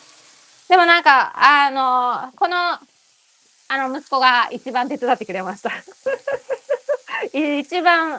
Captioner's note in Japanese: 笑い